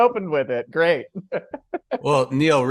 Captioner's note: laughs